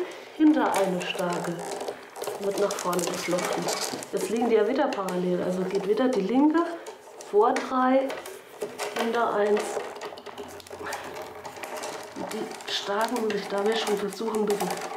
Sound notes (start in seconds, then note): 8.7 intense noise, creaking of the willows